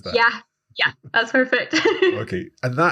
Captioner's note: laughing